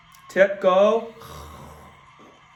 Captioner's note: grunts